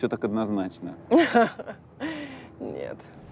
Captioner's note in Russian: смеется